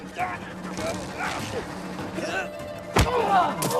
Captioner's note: thuds, grunts; grunting; Jimmy groans